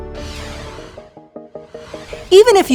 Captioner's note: logo whooshing